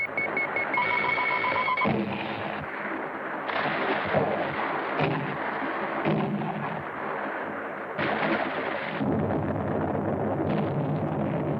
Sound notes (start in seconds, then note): 1.8 explosion; 3.1 water splashing; 7.6 water splashing; 8.0 explosions